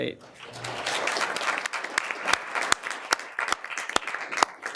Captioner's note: all applauding